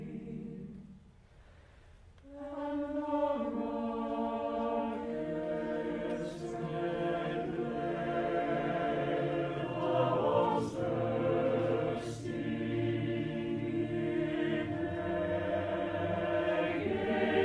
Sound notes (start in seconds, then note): none